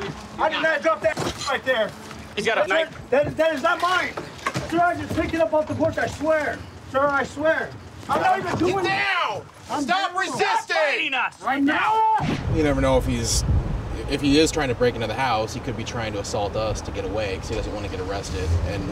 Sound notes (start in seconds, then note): 9.1 yelling; 11.2 yelling